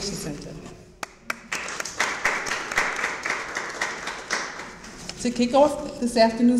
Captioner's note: audience applauds